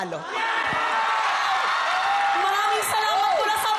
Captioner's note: cheering, applause